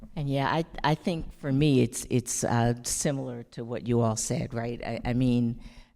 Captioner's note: none